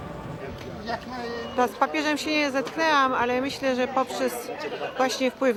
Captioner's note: speaking in Polish